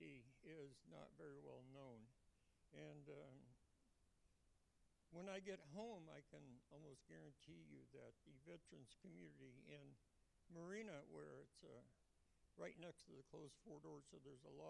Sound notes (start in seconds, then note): none